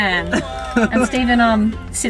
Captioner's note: laughing